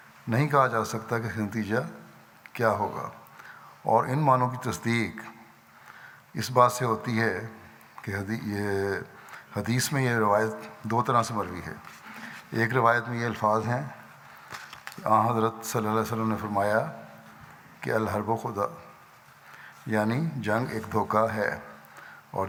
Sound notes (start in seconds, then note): 17.7 Arabic